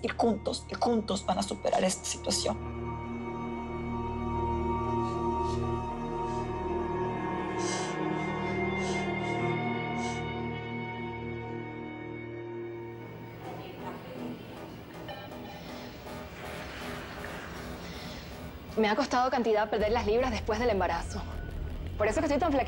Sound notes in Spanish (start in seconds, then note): 5.6 Sollozos; 13.7 Voz en altoparlantes